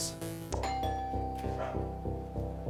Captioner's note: doorbell ringing; quiet intense music